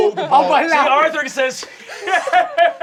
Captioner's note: laughing